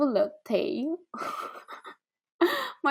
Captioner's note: laughs